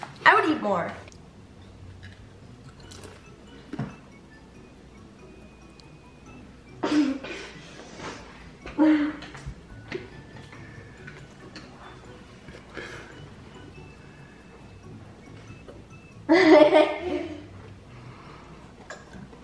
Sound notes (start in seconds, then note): 2.7 chip crunch; 6.8 kids laughter; 16.2 kids laughter